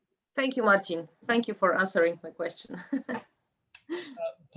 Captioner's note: laughs